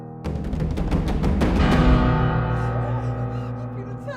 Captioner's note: knocking on door